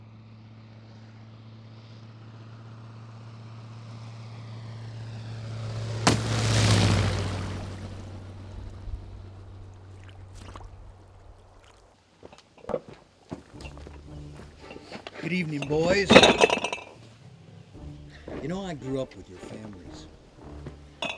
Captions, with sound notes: (thudding) (splashing) (whimsical music) - Good evening boys. You know I grew up with your families.